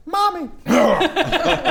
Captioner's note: ahem; unsympathetic laughter